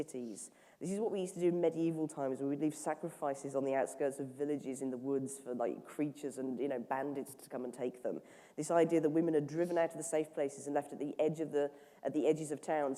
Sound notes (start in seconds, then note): none